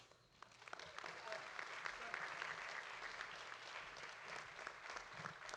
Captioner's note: audience applauding